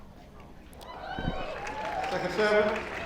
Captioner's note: crowd cheers